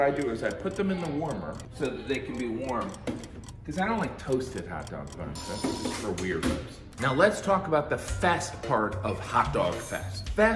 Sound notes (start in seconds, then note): 0.0 clock ticking; 5.3 alarm rings